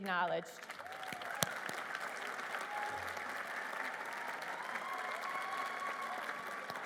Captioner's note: applause